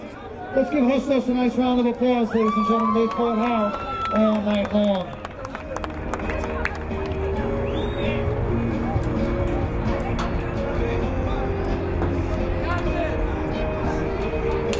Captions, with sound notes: Let's give Hostos a nice round of applause ladies and gentlemen, they played hard all night long. (crowd cheering) (crowd applauding)